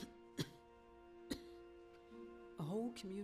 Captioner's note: coughs